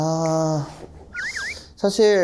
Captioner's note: speaking informally